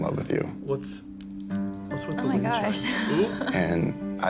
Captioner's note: giggles